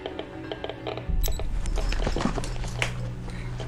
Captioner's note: watch beeps